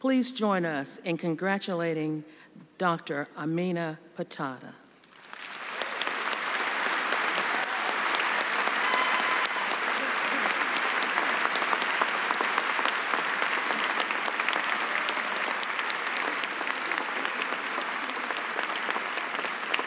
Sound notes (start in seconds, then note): 5.0 applause and cheering